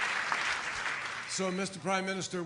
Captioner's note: applause